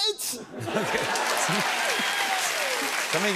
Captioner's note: laughter and applause